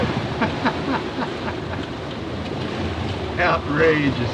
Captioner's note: laughs